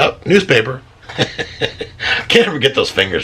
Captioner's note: laughs